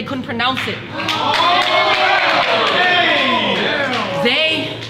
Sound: audience cheers

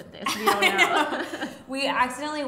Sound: laughing

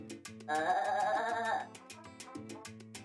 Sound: snickering

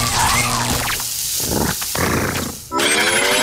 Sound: growling

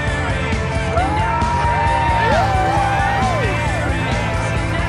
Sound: cheering

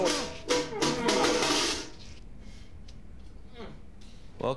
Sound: bucket clatters

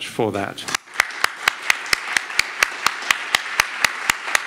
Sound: audience applauds

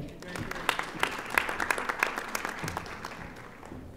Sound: audience applauding

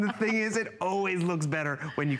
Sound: laughter

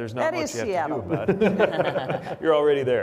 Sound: panel laughs

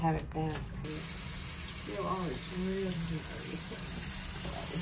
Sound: water splashing

